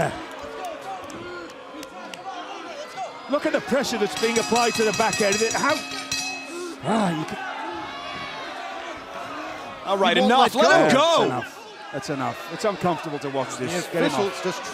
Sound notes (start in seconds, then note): 7.0 bell ringing